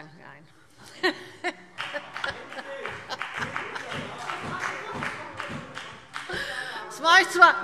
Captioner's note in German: Heiterkeit und Beifall BÜNDNIS 90/DIE GRÜNEN